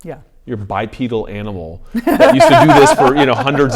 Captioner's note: laughing